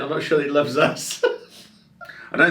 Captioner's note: laughs